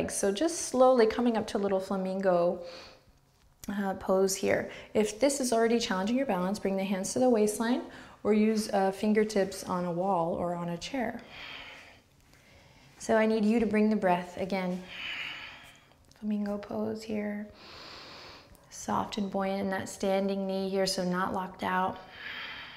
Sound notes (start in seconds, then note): 11.2 breath; 14.8 strong breath